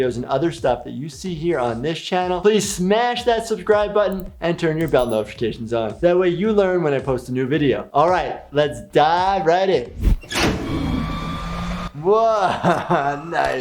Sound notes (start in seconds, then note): 10.0 machinery whirring